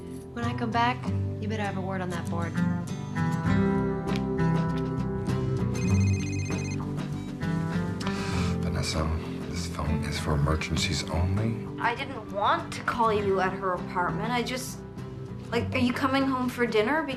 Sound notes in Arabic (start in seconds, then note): 5.7 الهاتف الخلوي RlNGlNG